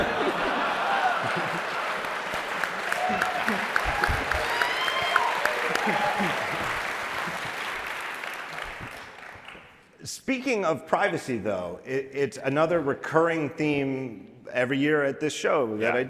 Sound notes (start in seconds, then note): 0.2 audience laughing; 3.2 applause